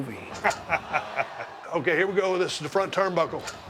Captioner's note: laugh